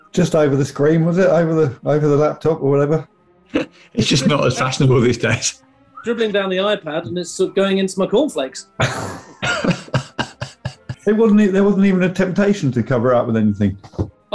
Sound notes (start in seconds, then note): 3.5 laughing; 8.8 sniggering